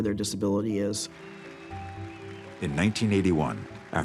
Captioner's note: audience cheers and applauds